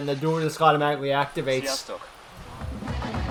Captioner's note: Hungarian